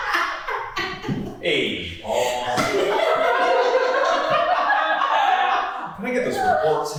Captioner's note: laughs; cast and crew laughing